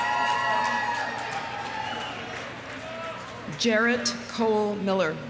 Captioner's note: audience cheering; audience applauding